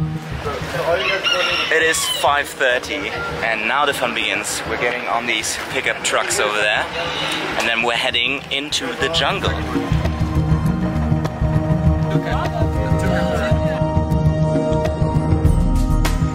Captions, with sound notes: (rooster crows) - It is five 30 and now the fun begins. We're getting on these pickup trucks over there. And then we're heading into the jungle. (upbeat music)